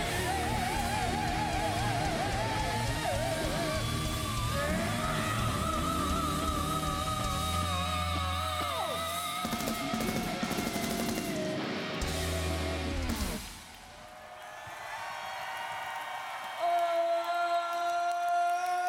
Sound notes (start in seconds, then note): 10.2 applause